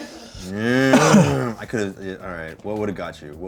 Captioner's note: coughs